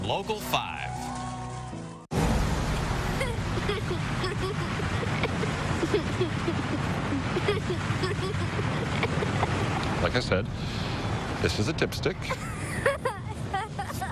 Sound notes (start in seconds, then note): 3.1 giggling